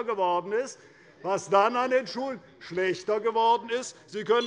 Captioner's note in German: Anhaltende Unruhe - Glockenzeichen der Präsidentin